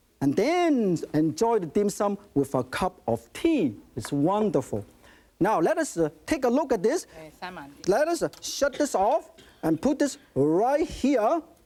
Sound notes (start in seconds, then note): 7.0 speaking in foreign language